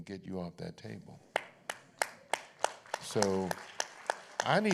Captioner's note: applause